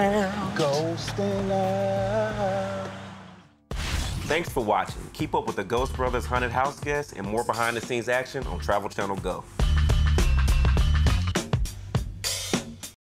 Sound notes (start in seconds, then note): 3.7 swoosh